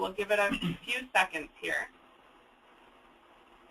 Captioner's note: clears his throat